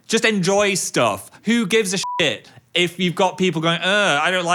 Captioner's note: beeps